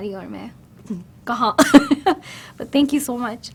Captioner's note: giggles